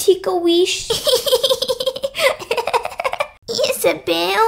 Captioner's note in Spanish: Riéndose